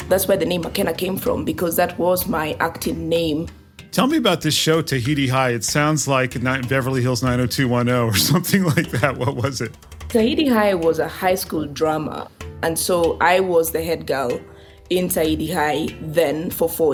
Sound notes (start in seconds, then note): 8.0 laugh